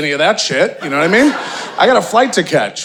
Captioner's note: audience laughing